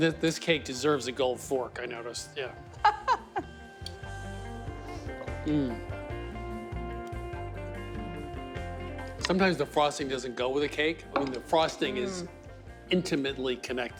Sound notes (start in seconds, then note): 2.7 laughing